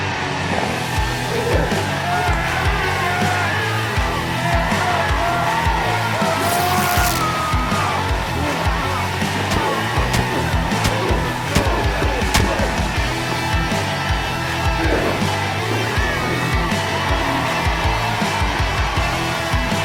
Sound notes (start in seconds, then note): 2.7 crowd cheering even louder with excitement; 18.0 crowd cheering